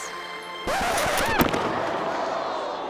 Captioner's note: skate clinks; record scratching; skater thuds